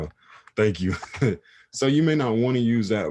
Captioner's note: chuckles